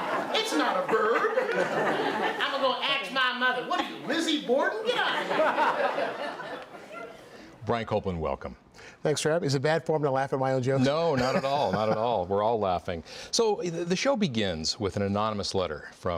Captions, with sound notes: THINK OF IT AS A NOUN. [ LAUGHTER ] IT'S NOT AER HAVE B. "I'M GONNA AX MY MOTHER." WHAT ARE YOU LIZZIE BORDEN? GET OUT OF HERE! >> BRIAN COPELAND, WELCOME.